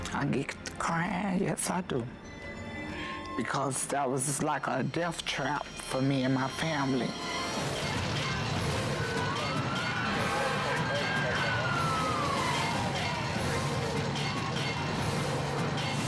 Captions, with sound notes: I get crying. Yes, I do. Because that was like a death trap for me and my family. Don't jump! (siren wails) (operator chatters) (suspenseful music)